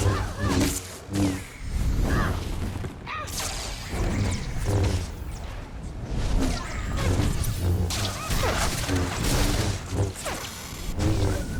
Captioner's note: growls